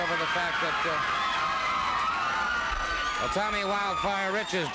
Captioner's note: crowd screaming